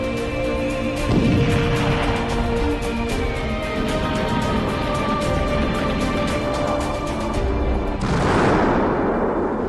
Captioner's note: sounds of explosions and bombs falling